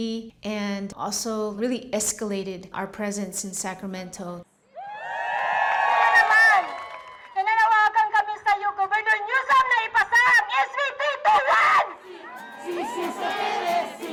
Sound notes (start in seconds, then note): 4.7 cheering; 7.2 in Tagalog